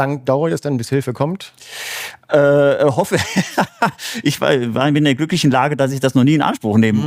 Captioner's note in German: gelächter